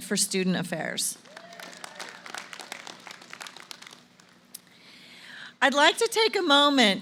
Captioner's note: applause